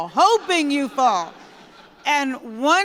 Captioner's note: laughter